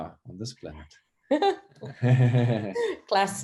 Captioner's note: chuckles